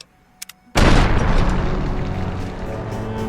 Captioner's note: boom!